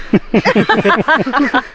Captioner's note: laughing